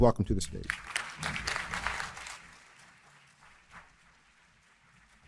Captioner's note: audience applauding